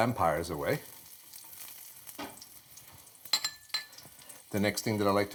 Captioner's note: garlic sizzling